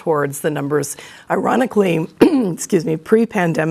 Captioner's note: clears throat